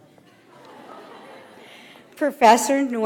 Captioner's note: audience laughs